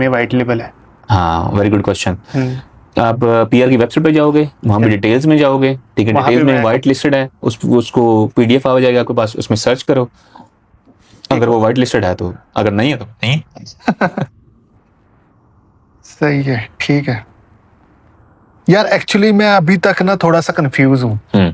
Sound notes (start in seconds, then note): 13.5 laughs